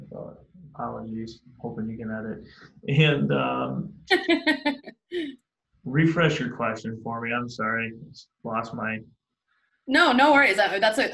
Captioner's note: laughs